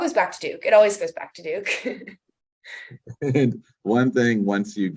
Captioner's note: laughs